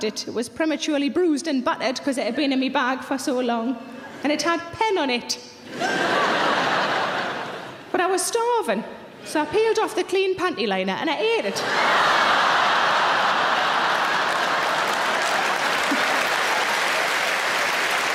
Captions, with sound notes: it was prematurely bruised and battered, 'cause it had been in my bag for so long and it had pen on it, (audience laughing) but I was starving. So I peeled off the clean pantyliner and I ate it. (audience laughing) (audience applauding)